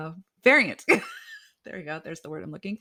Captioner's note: laughs